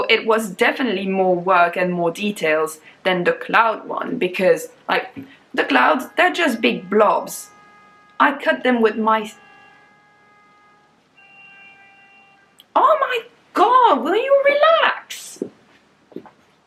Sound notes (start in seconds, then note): 9.1 cars honking outside